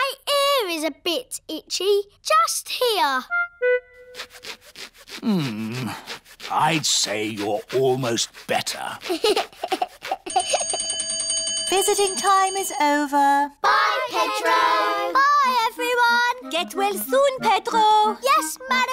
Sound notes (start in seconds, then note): 8.9 giggles; 10.3 bell rings